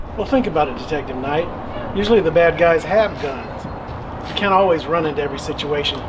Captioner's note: none